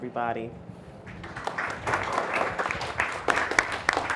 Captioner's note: applause